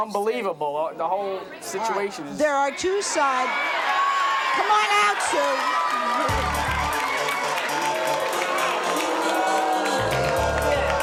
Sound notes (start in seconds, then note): 3.4 audience jeering; 6.3 audience cheering, jeering, clapping